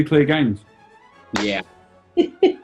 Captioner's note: clap; giggling